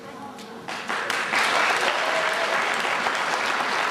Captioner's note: applause